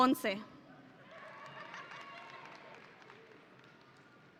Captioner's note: audience cheering